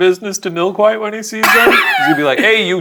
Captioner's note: laughing